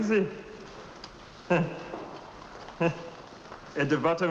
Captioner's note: laughing